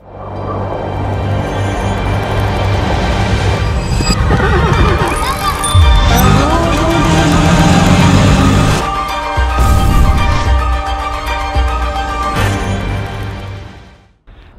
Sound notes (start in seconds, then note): 0.1 dramatic music; 4.1 horse neighs; 9.0 bright music